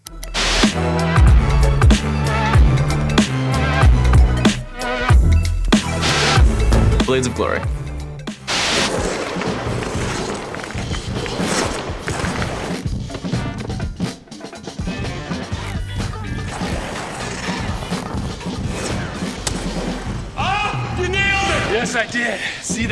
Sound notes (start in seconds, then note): 0.0 upbeat hyped music; 6.2 white noise; 8.4 skates stroking; 8.4 white noise; 19.4 skates stroking